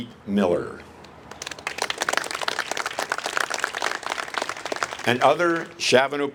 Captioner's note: applase